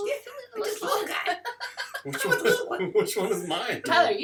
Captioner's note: laughter